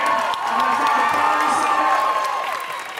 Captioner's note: audience cheering